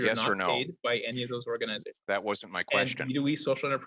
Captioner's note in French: voix de l'interprète